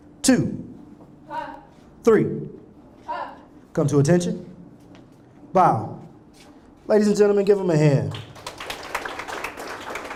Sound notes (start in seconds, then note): 8.0 applause